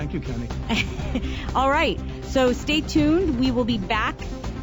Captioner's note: laughter